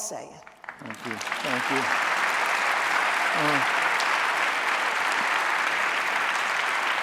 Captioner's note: audience applauding